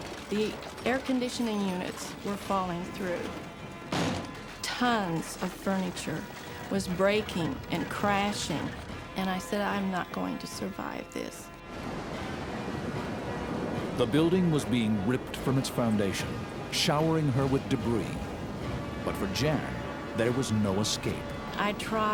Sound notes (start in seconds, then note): 3.9 debris clatters; 11.6 wind blows violently